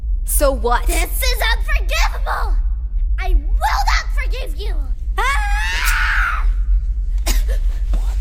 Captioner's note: screams